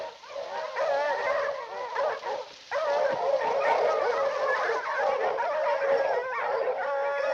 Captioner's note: leaves rustling continues; dogs barking continues